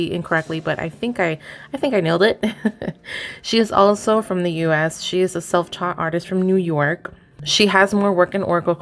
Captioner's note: laughs